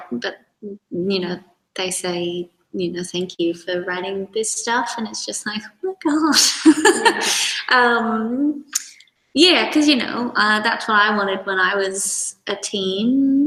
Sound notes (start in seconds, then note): 6.4 chuckles